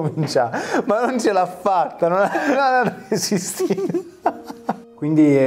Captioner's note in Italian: ridono entrambi